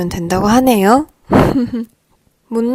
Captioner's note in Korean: 웃음